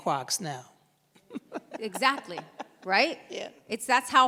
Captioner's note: laughs